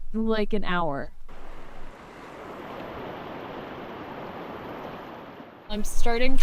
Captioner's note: water rushes